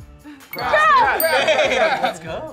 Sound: bell dings

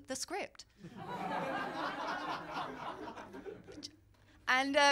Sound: laughter

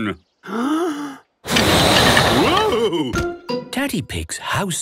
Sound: inhaling deeply; blowing

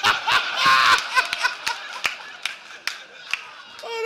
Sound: laughter

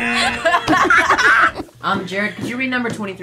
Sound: both laugh

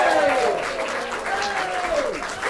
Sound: applause

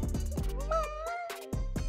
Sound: meowing cat sounds

